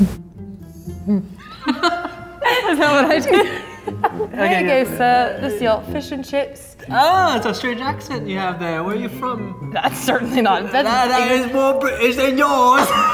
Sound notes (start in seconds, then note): 1.1 laughing